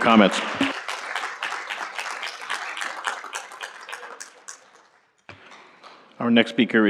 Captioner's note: applause